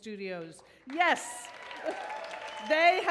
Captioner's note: audience cheers